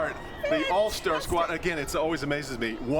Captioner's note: cheering